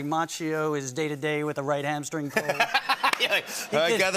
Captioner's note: laughter